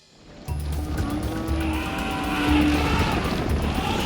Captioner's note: elephants trumpeting